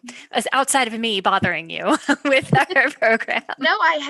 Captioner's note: giggles